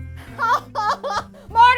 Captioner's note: crying